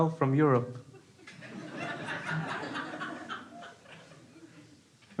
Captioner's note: crowd laughing